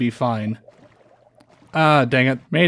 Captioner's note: drowned gurgles